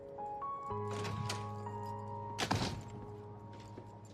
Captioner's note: door opens, closes